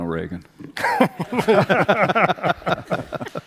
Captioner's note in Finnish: Laughter